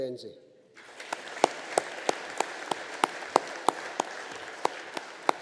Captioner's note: audience applauding